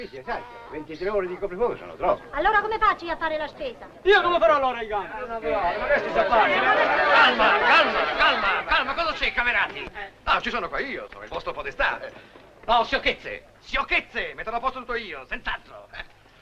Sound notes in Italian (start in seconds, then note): 8.0 grida confuse